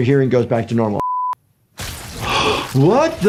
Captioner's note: plant squishing; gasping